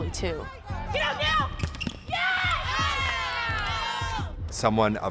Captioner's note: teammates shouting